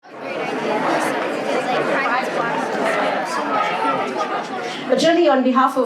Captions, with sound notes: (people chatter indistinctly) - But, generally, on behalf